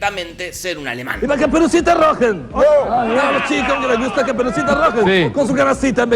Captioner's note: fake German accent